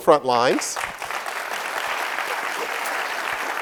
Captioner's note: clapping